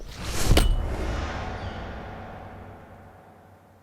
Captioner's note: bat clinks